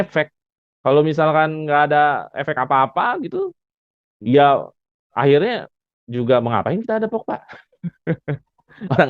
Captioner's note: laughs